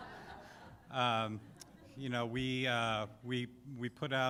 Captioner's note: laughter